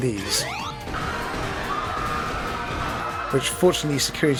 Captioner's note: crowd screams